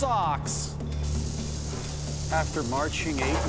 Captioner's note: sizzling